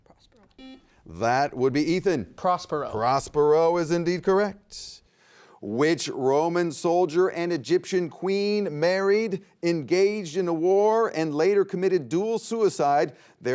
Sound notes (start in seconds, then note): 0.5 buzzer beeps